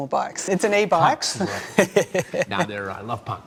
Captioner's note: laughs